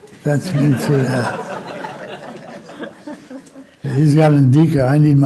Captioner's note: laughing